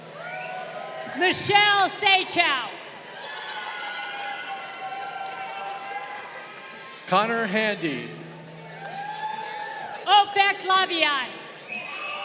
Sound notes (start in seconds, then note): 0.1 crowd cheering; 3.2 crowd cheering; 8.6 crowd cheering